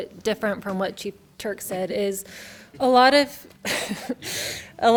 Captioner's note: chuckles